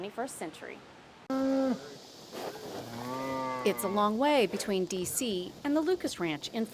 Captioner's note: sound of cows mooing